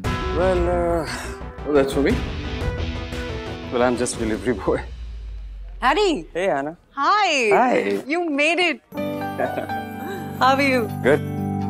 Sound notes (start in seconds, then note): 9.3 laughs